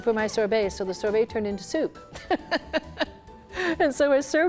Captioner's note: laughs